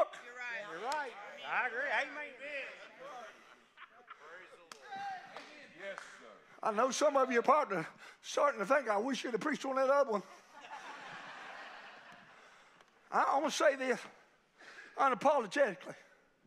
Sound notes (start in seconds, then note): 10.0 congregation laughing